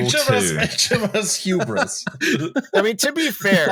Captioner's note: laughter